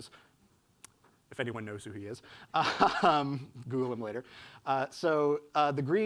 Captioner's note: laughs